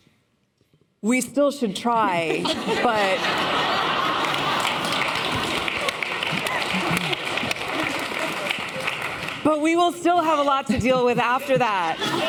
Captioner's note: laughter